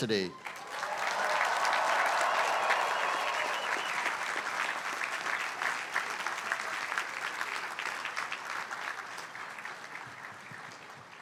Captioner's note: applause